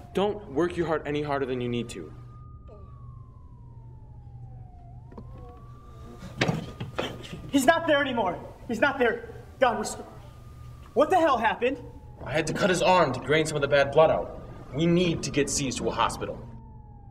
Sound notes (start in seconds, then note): 6.3 footsteps thud